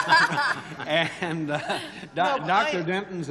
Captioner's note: laughter